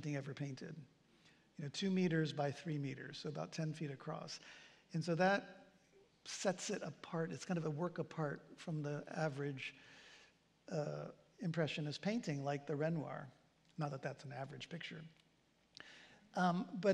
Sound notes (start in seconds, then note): none